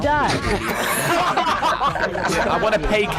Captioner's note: laughs